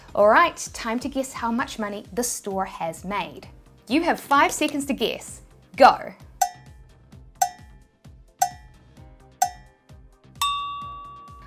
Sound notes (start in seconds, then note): 6.4 clock ticking